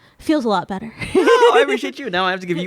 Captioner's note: laughing